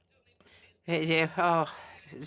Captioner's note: speaking FRENCH